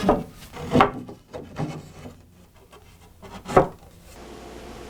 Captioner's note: wood clunks